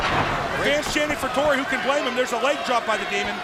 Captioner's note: crowd cheering